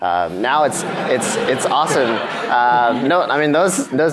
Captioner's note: audience laughs